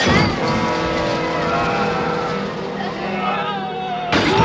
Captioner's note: shouting - groaning